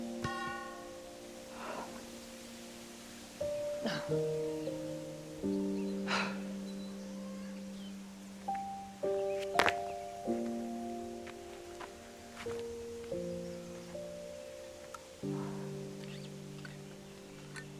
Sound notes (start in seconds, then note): 6.1 Helen exhaling sharply